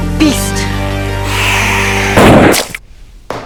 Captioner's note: Gaunt Man hisses; gun fires